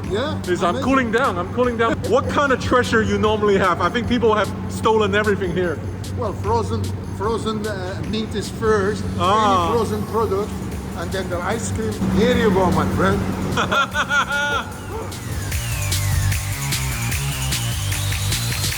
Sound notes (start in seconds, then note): 13.0 laughs; 16.0 intense music